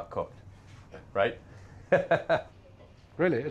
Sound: laughs

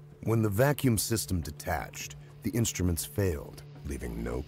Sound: voiceover

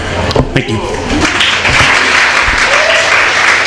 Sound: applause

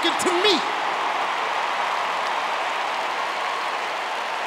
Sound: audience cheering

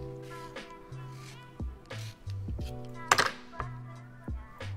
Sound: lemon scraping

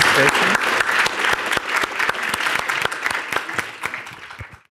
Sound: audience applauding

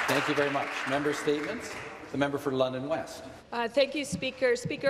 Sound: some Applause

